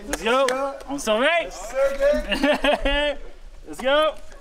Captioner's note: laughs